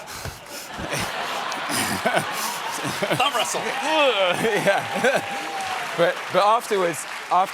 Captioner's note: laughter; applause